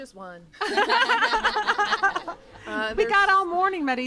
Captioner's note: laughter